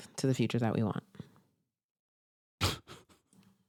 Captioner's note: pause